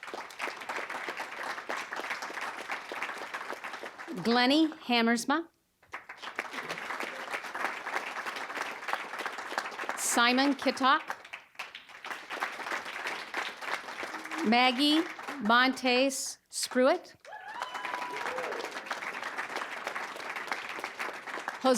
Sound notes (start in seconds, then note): 0.0 applause; 6.9 applause; 12.2 applause; 17.2 audience cheering; 18.9 applause